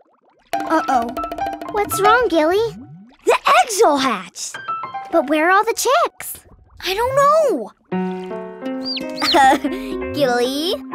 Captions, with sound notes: Uh oh. What's wrong, Gilly? The egg's all hatched! But where are all the chicks? I don't know! [chirping] Gilly.